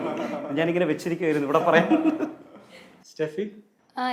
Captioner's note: laughs